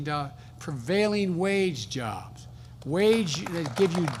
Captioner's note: applause